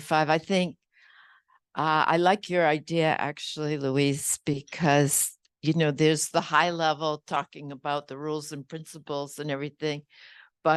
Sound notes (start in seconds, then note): none